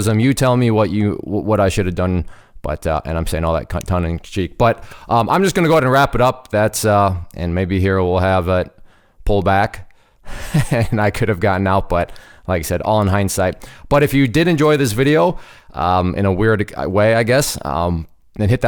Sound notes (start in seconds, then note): 10.4 laugh